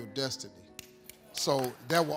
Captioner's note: audience clapping